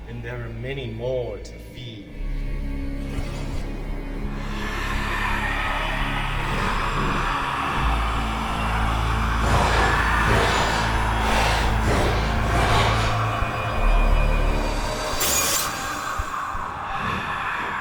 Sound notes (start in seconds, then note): 2.9 creatures screeching; 2.9 ominous music